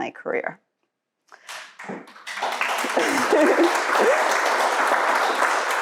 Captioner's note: audience applauds